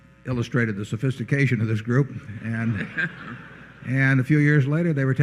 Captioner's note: laughter